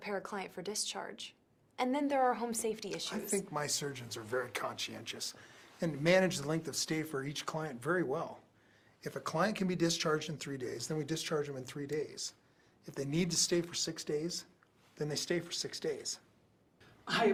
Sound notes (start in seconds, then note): 3.5 authoritatively